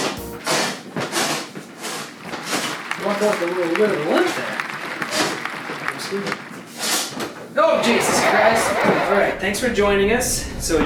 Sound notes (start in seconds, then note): 2.4 applause; 7.7 laughter